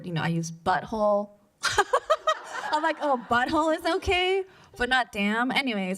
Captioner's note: laughs